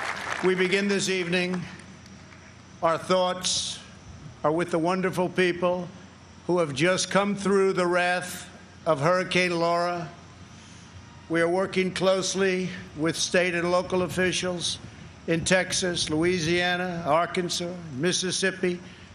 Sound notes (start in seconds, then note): 0.0 cheers and applause